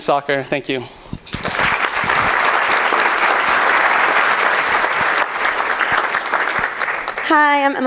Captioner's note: applause